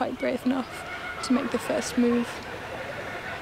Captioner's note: birds calling